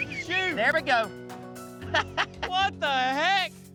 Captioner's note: laughter